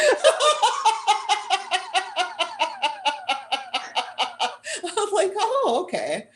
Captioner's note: laughter